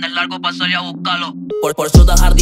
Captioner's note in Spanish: beep